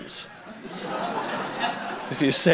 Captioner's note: audience laughter